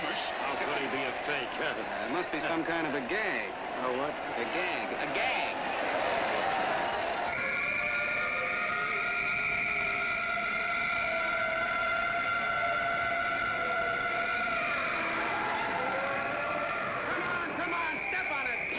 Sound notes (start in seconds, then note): 7.2 sirens